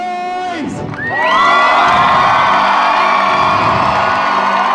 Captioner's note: audience cheering